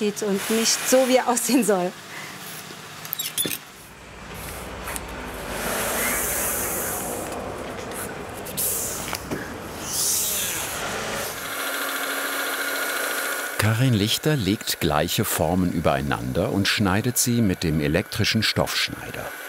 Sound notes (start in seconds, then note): 5.4 machines roar in the background; 11.3 whirring